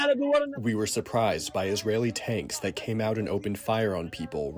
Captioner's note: through translator